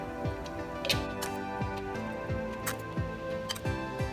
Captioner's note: rhythmic music; spoon scraping